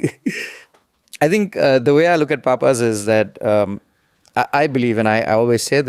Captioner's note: laughs